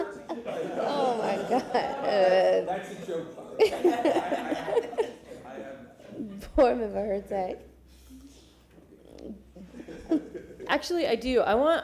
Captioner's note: laughter